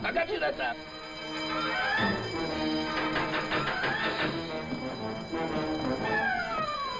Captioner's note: alarms ringing; energetic instrumental music